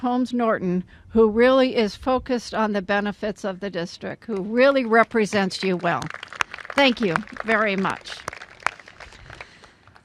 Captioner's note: applause